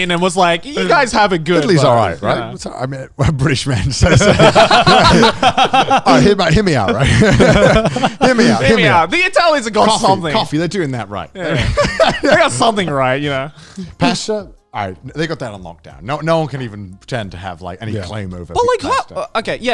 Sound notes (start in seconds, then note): 3.7 speakers laughing; 7.2 speakers chuckling; 11.3 laughing